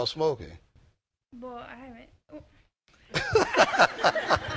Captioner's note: laughter